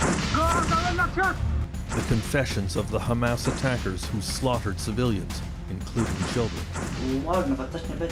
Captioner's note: gunfire